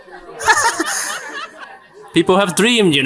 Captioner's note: gigglings